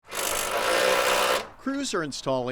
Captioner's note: drilling noises